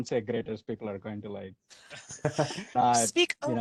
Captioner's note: laughter